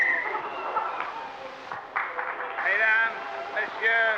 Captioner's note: blows whistle